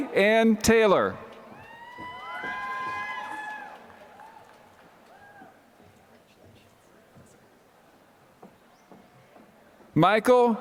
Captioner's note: applause